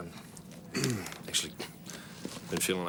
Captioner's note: clears throat